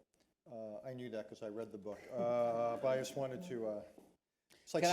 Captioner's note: laughter